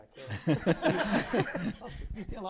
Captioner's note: laughter